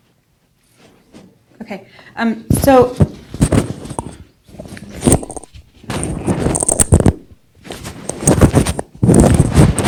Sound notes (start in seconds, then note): 5.0 microphone producing static